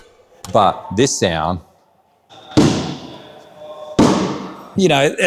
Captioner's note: ball pounds